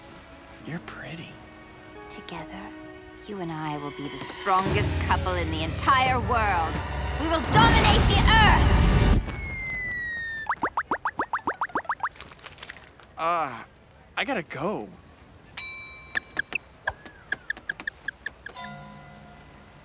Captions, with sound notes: You're pretty. Together, you and I will be the strongest couple in the entire world. We will dominate the Earth! [beeping] Uh. I got to go. [shoes squeaking]